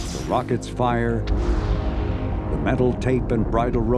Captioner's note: rocket roaring